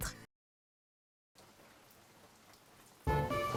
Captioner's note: distant rain